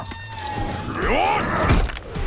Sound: grunting

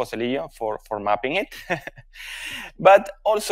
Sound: chuckles

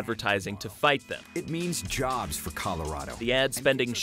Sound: voiceover

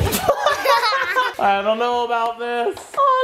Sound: laughter

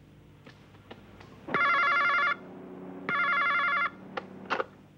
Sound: phone ringing

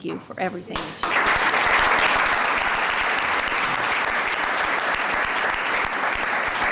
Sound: applause

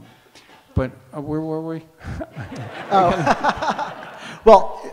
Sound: audience laughs

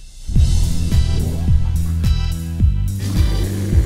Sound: techno music; monster growls

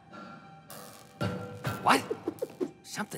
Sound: thudding

